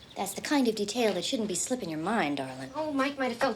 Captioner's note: none